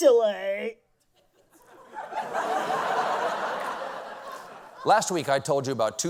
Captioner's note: laughter